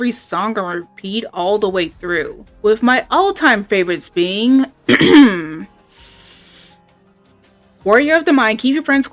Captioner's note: clears throat; inhale